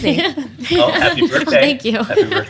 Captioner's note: laughs